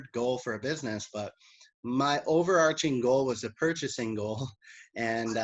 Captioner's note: chuckles